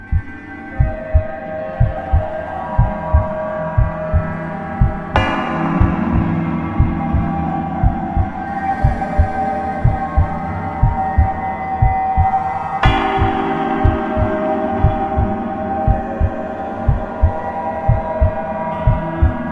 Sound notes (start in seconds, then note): 0.1 eerie music; 0.1 heart beating; 10.8 heart beating; 12.1 eerie music